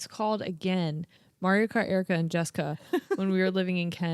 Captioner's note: chuckles